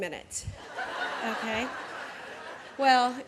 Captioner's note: laughter